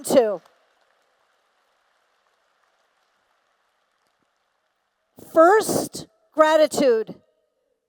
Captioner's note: applause